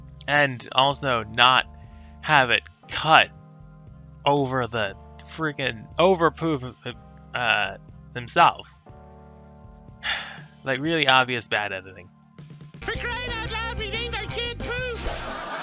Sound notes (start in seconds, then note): 10.0 sigh